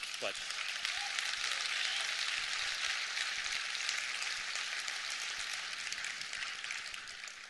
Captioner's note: applause